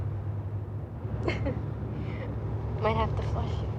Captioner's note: chuckles